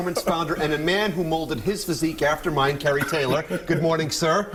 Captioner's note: laughter